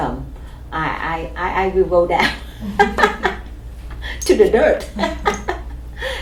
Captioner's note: laughs; laughs